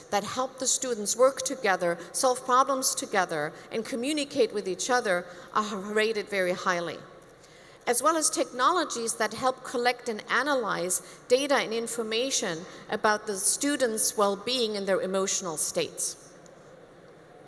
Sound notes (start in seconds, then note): none